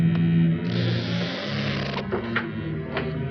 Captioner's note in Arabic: صرير الباب